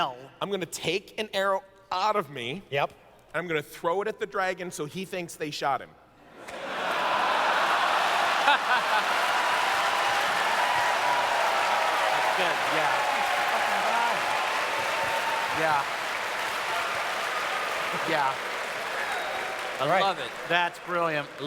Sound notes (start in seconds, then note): 6.3 audience cheers; 6.4 laughter